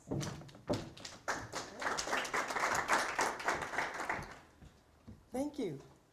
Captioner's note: applause